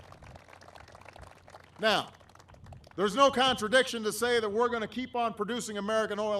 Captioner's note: applause